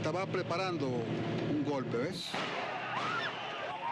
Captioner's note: gunfire